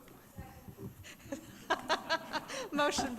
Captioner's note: laughing